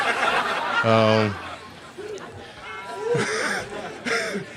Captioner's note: laughter